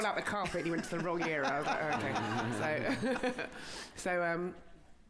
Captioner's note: laughter